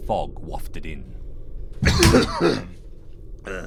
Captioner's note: deep sea lion-like cough